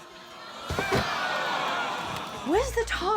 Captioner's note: audience groans